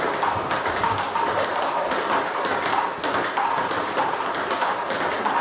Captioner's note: ball ping pong hitting continues